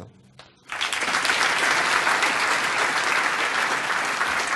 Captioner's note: applause